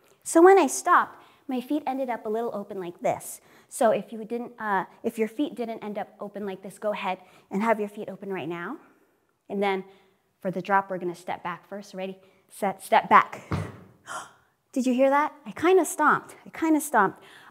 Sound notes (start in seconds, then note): 13.5 stamps